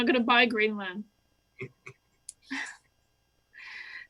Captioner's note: laughter